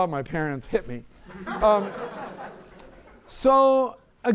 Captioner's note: laughter